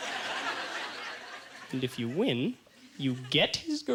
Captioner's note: audience laughter